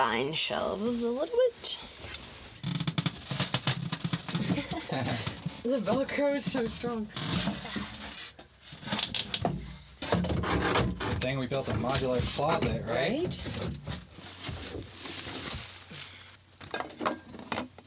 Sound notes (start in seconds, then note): 4.4 chuckling